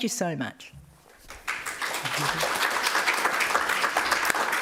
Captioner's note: applause